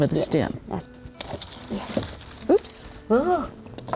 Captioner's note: rustling